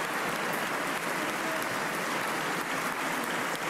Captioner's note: applause